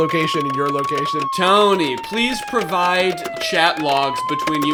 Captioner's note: siren